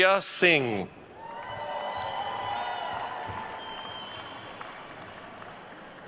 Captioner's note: attendees cheering and applauding